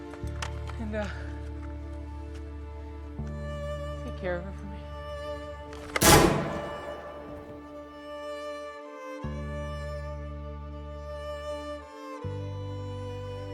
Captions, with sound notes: And take care of her for me... [gunshot] [sad music]